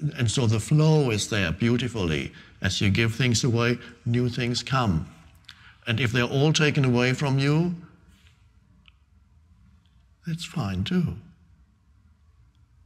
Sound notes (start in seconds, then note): none